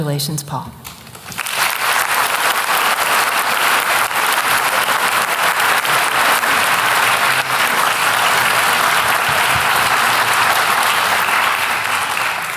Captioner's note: applause